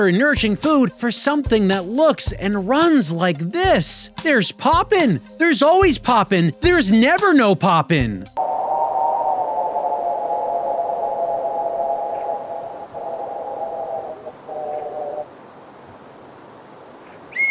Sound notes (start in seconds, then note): 8.4 low wind howling; 15.4 wind suddenly halts; 17.3 whistles